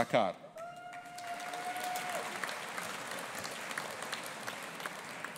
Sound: audience applauding

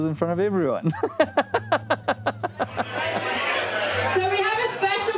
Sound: laughs

